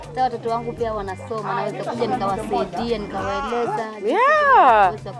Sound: talks in Giriama

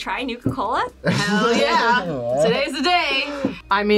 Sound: laughs

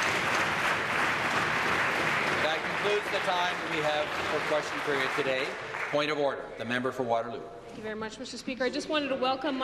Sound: applause

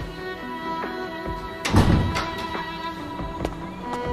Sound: door closing

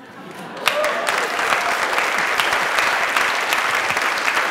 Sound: applause

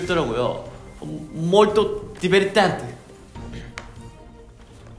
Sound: speaking Italian

